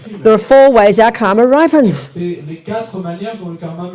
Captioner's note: speaking in French